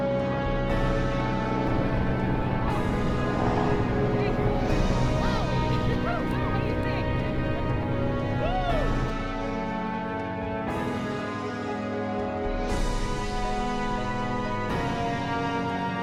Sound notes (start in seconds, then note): 5.5 people cheering indistinctly